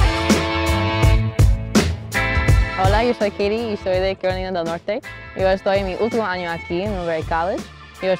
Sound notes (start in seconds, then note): 2.9 foreign language